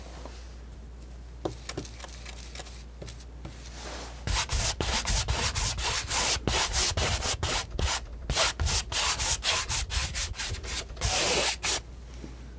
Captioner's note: scratching